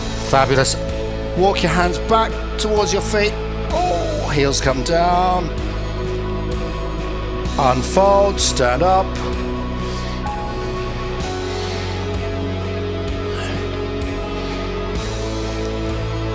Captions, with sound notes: Fabulous. Walk your hands back towards your feet. Heels come down. Unfold. Stand up. [breathing]